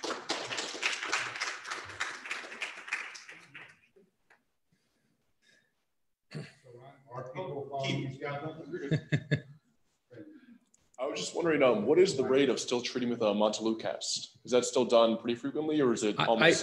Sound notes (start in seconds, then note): 0.0 audience applauds; 8.7 laughs